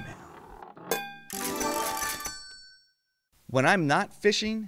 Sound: slot machines jingle

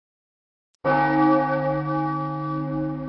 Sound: bell chimes

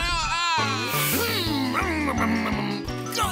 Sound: imitating truck sounds

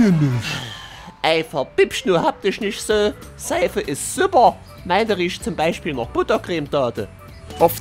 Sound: scottish dialect; australian dialect

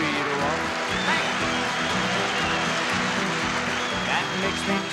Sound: audience cheering

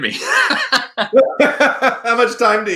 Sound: laughing

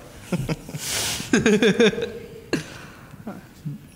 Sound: laughing

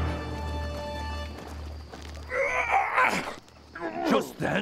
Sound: grunting

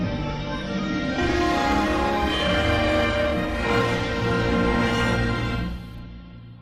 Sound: remastered chime playing

